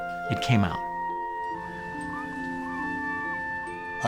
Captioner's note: seagulls squawking